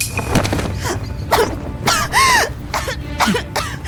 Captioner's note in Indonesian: Batuk batuk batuk batuk